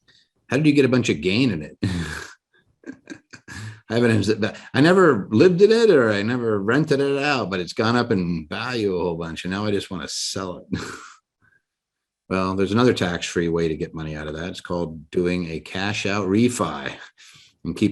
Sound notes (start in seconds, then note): 2.8 laughs; 10.7 laughs